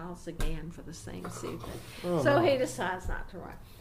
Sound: laughs

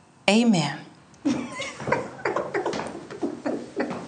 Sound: laughing

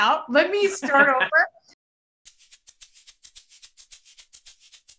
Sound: laughs

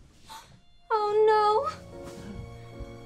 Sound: gasp

